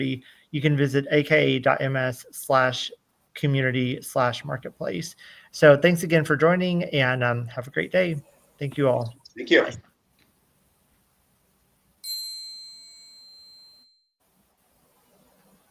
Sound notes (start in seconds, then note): 12.0 bell dings